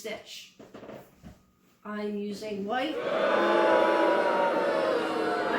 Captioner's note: crowd boos